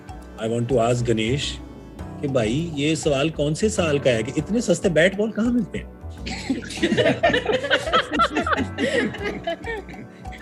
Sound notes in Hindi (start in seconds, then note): 6.2 सब हँसते हुए